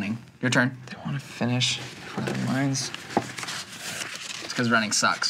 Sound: quietly

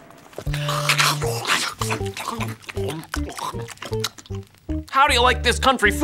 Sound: all chewing and slurping

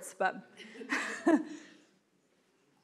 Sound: laughing

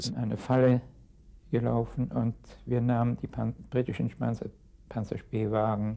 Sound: speaking in a foreign language

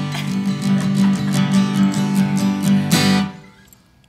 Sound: laughing

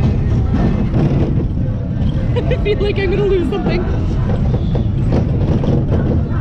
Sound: laughs

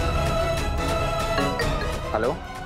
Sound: phone ringing

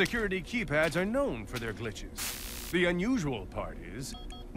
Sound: electricity sizzles

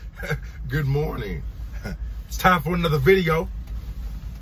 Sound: laughs

